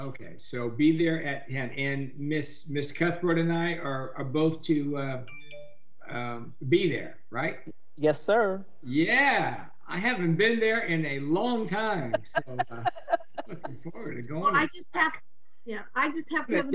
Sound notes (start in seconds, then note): 6.1 upbeat jingle; 11.6 laughs